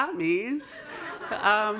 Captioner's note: laughter